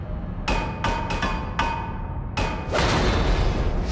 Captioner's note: knocking